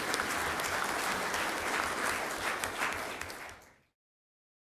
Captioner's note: clapping